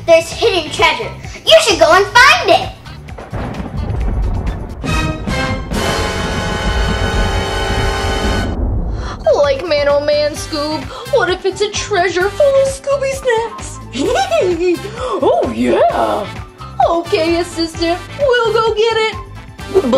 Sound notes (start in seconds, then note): 4.0 thunder; 5.4 dramatic music; 14.3 laughs